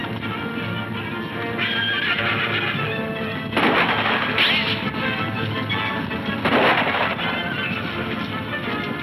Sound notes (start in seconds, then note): 0.1 hooves thundering; 1.6 horses neighing; 1.9 guns firing